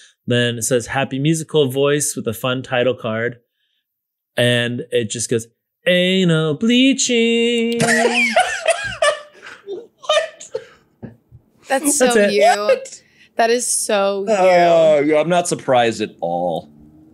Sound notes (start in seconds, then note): 7.7 laughs